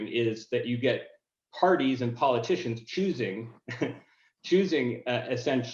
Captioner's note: laughing